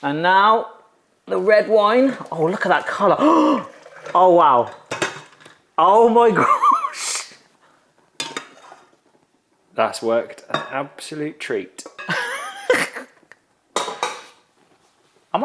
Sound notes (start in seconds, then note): 3.2 gasps; 6.3 laughs; 12.1 giggles